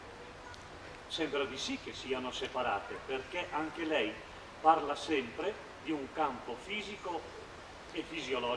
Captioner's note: Italian